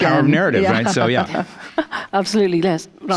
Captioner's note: chuckles